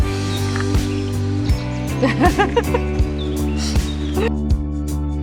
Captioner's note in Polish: śmiech